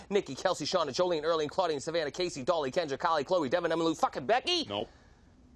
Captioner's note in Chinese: 高速念名字中